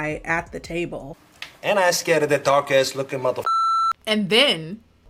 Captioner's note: beep